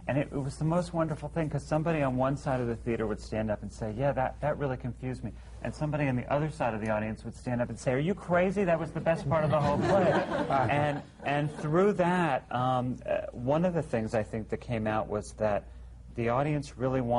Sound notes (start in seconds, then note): 11.0 laughter